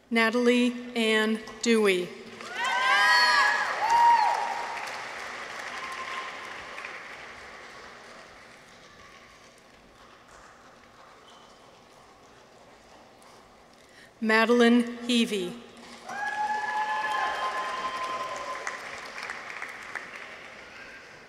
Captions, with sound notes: Natalie Ann Dewey. -(people cheer) -(audience applauds) Madeleine Heavey. -(people cheer) -(audience applauds)